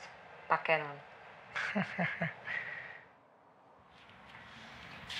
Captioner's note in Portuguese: risadas